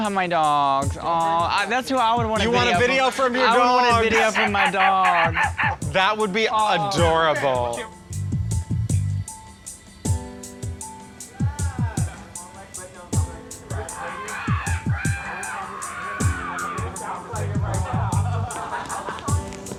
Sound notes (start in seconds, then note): 4.7 barking sounds; 11.2 indistinct chatter; 13.6 mimicking crows cawing; 18.1 laughing